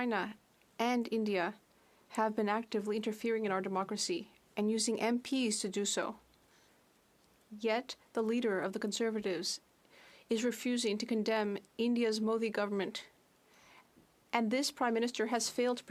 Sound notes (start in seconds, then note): 4.3 speaking French